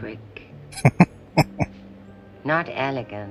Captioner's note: chuckling